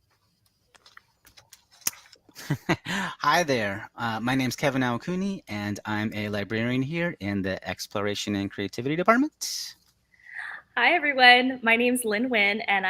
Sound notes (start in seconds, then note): 2.4 laughs